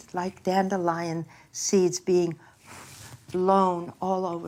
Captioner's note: blows air